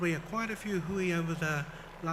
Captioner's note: foreign language